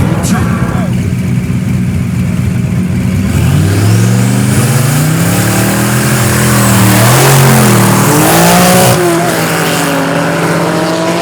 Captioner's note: engines revving